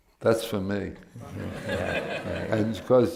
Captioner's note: laughter